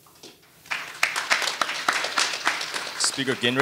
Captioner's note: audience applauding